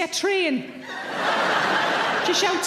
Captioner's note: audience laughing